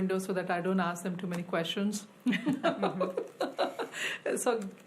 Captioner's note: laughs